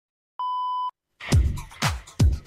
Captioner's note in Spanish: Señal horaria de radio